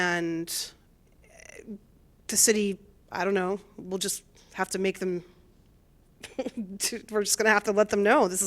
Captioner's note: laughter